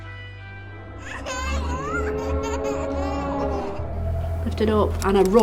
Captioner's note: child laughing